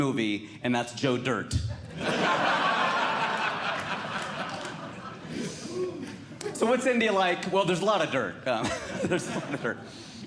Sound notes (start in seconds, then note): 1.8 audience Laughing